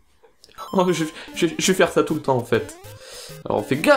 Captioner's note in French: tout petit rire